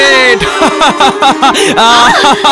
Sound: laughs

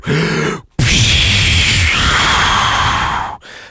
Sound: whoooshshshsh; whoosh

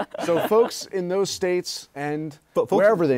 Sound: laughter

